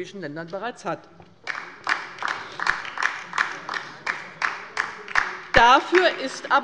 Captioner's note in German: Beifall bei der LINKEN